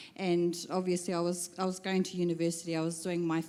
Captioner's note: none